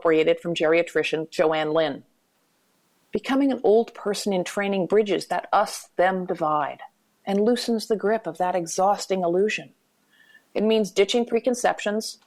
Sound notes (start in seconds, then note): none